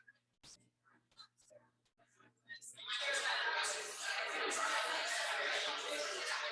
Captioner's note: people chattering indistinctly